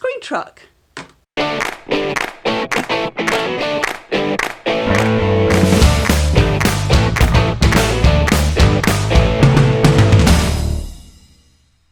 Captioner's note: claps